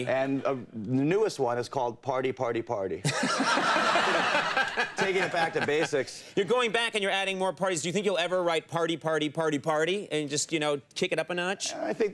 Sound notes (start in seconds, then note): 3.0 laughing; 3.0 audience laughing